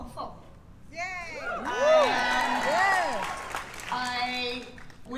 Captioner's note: cheers and applause